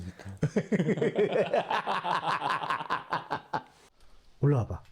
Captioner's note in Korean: 고전적인 악당 웃음